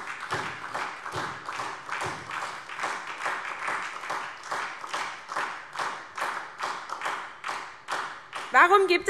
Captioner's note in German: Beifall SPD